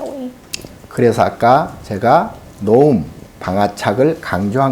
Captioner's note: speaking Korean